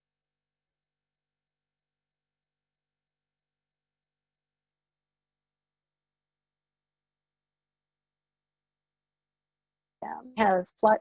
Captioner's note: silence